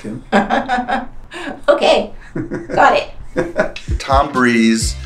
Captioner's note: laughs